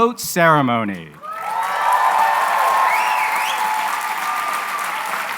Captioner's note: cheering and applause